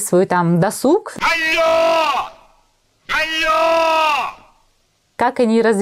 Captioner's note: screams loudly